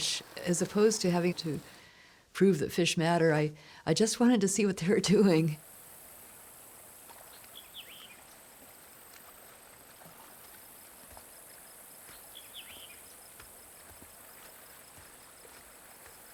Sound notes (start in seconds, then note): 7.2 birds chirping; 7.6 water flowing; 10.7 insects buzzing